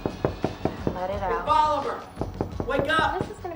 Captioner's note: door knocking